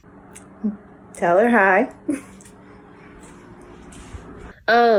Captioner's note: giggles